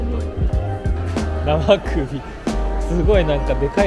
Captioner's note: laughs